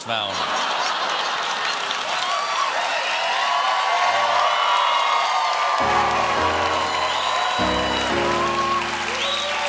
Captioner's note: laughter; applause; piano riff